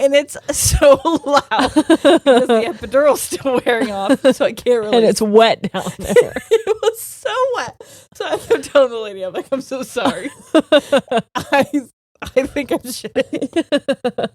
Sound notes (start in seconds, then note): 0.7 both laughing; 5.7 both laughing; 10.2 laughing